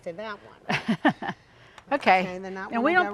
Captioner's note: laughing amusingly